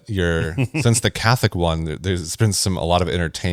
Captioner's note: laughs